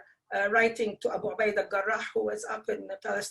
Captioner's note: speaking foreign language